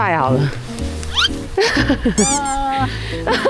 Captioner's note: chuckles; laughs